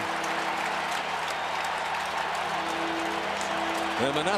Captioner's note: cheering